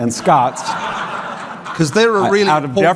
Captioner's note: audience laughing